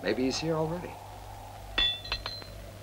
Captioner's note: metal tinging